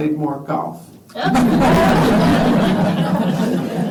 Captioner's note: laughter